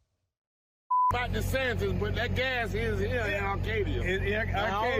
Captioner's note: beep